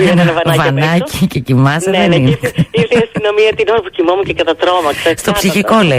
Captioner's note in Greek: γέλια; γέλια